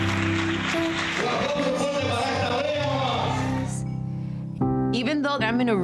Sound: host speaking Spanish

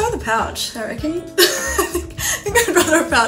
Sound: laughs

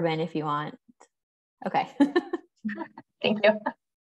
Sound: laughter

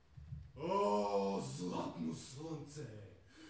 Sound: deep and loud

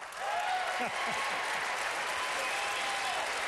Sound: applause

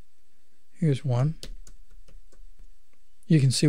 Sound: clicking

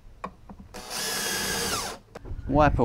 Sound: electric drilling noise

